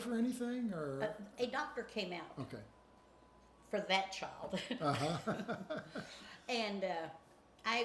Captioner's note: chuckles